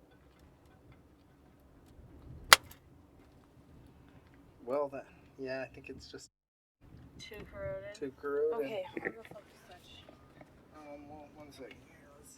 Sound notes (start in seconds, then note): 2.5 electrical spark